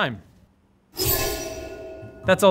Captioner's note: reverse whoosh